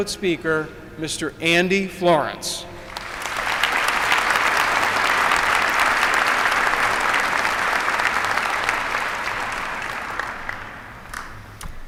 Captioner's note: applause